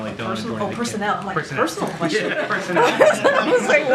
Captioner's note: laughter